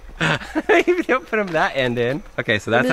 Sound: laughs

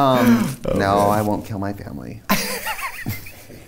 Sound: laughs; laughs

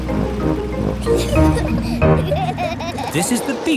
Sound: children giggling

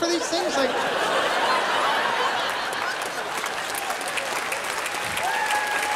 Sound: laughter, applause

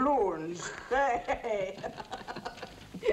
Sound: chortling

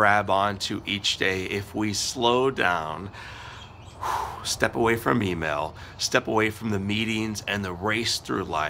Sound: whew!

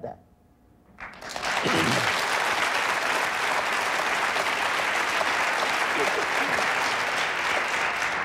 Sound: audience applauding

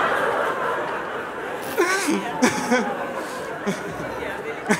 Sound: laughter

